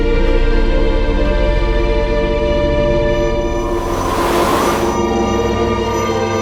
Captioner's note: energy whirring; somber music continues; dramatic music